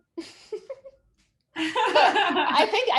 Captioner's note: chuckles